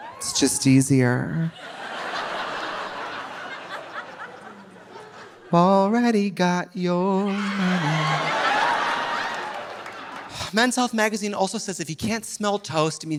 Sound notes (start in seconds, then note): 1.5 audience laughing; 7.2 audience laughing